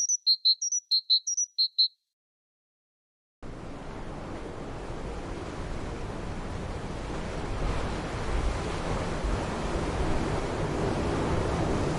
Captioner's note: birds chirping